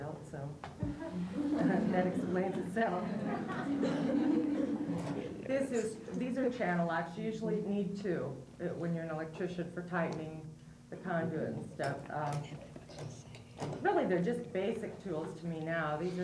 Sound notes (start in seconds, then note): 3.1 laughter